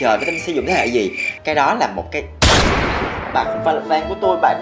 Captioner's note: bang